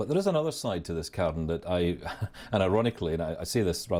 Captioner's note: laughing